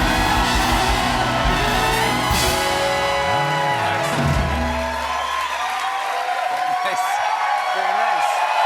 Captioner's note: cheers and applause